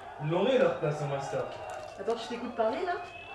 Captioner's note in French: cris de manifestants dehors